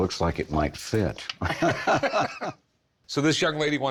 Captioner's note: all laughing